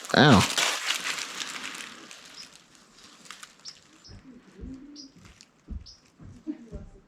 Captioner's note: leaves crunching; laughs